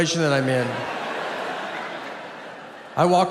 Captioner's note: audience laughs